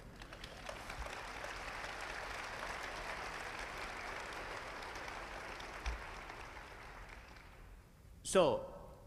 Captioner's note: applause